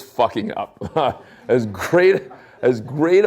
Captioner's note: chuckling